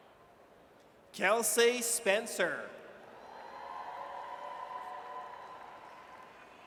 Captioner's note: audience cheers